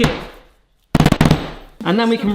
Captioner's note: pineapples thudding rapidly